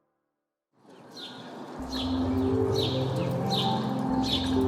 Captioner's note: birds chirping